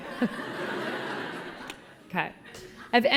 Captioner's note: collective laughing